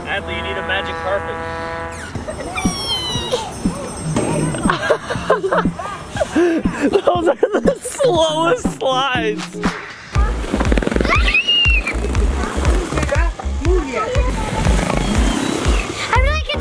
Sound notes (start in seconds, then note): 4.4 dad laughing; 5.3 chuckles; 11.0 screams